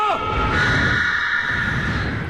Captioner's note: lily screams